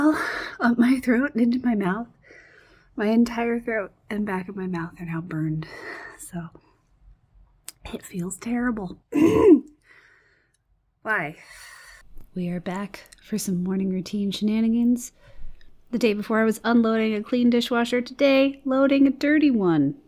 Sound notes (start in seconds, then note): 9.1 clears throat